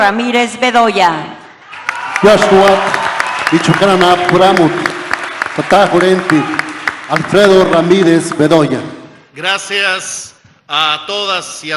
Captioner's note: applause